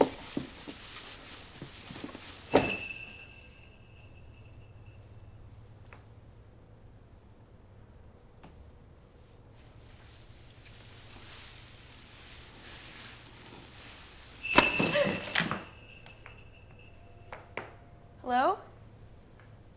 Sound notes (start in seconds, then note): 2.5 bells jingling; 14.4 Jenna gasps; 14.4 bells jingling